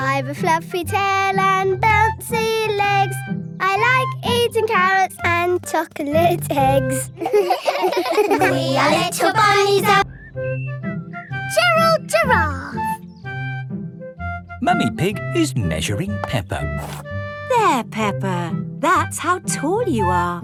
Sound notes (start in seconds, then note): 7.1 all giggling